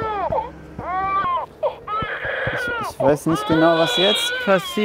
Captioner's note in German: Baby schreit